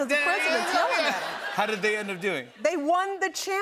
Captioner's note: laughter